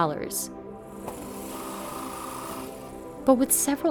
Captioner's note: drills whirring